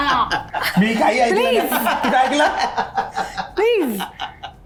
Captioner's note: laughs